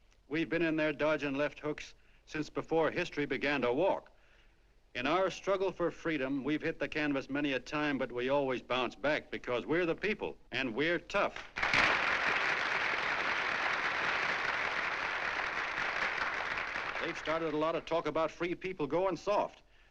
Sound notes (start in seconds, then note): 11.3 applause